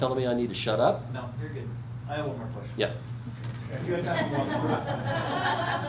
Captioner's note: crowd laughter